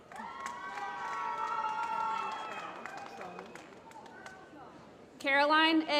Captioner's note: applause